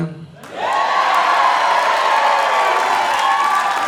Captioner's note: audience cheering